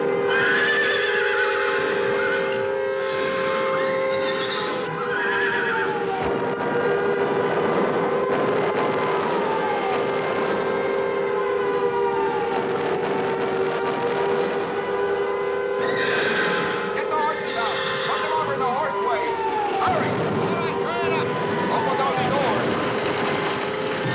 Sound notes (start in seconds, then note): 0.3 whinnying; 6.2 sirens Continue, Bombs Exploding; 15.8 whinnying